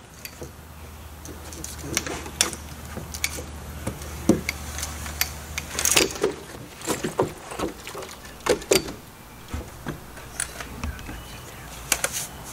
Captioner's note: footsteps